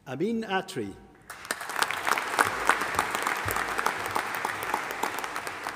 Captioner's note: audience applauding